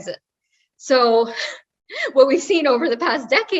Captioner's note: laugh